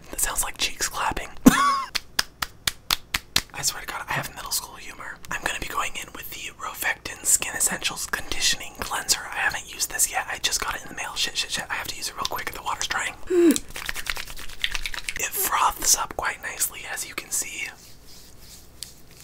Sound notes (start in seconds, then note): 1.8 palms slapping; 13.6 hands sloshing